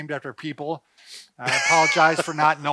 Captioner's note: laughing